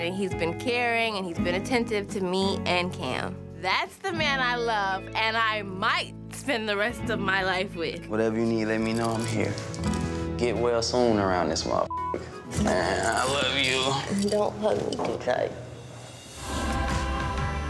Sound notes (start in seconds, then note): 11.9 beep